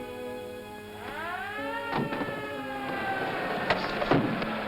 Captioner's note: siren wails